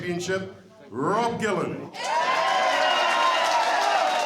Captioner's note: cheering, applause